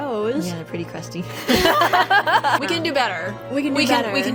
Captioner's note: laughs